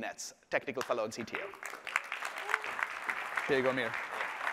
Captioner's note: applause